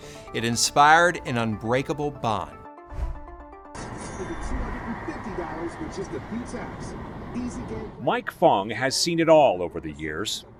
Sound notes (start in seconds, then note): 4.4 radio Announcer